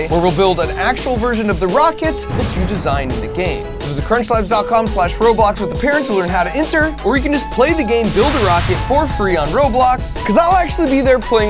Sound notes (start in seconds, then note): 7.9 rocket whooshing